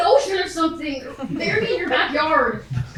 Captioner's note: audience laughs